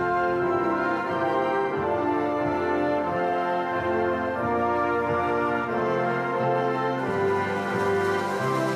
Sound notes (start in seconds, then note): 3.1 audience applauding